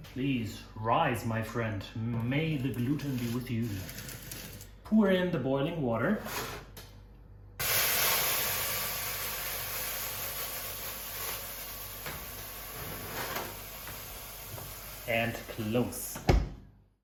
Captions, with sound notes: Please rise my friend, may the gluten be with you. Pour in the boiling water. (water sizzling) And close.